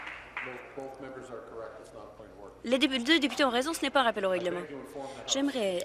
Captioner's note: applause